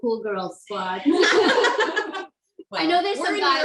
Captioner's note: laughs